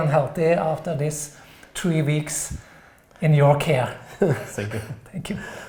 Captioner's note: chuckling